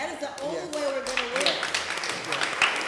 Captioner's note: applause